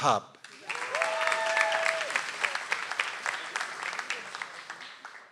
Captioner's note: audience applauds